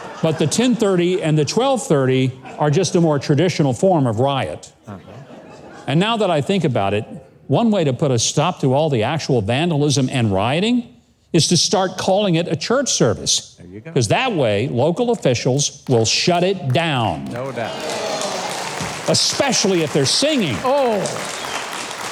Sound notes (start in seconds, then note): 18.3 audience applauding; 21.9 audience applauding